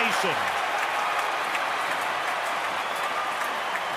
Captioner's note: crowd cheering